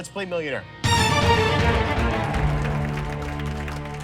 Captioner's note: cheers and applause